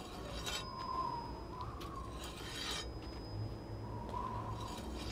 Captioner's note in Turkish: Rüzgâr esiyor